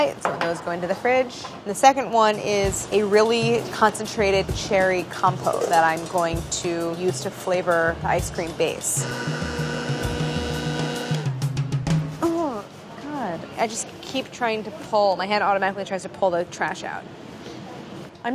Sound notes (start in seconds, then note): 8.9 blender blending